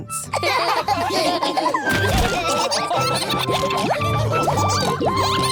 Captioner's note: all laughing